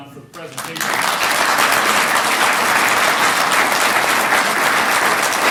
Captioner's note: applause